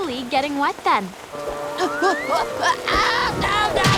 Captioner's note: grunting